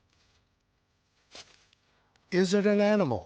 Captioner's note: feet treading